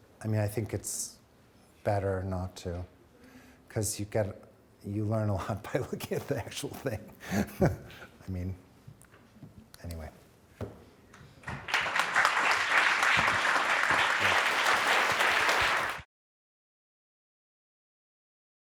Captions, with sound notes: I mean, I think it's better not to 'cause you get, you learn (chuckling) a lot by looking at the actual thing. I mean, anyway. (audience applauding)